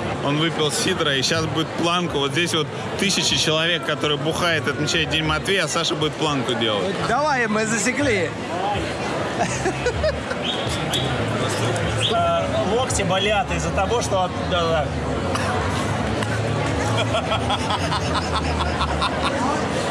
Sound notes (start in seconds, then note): 9.3 laughter; 16.8 hearty laughter